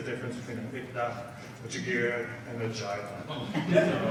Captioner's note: speaks in foreign language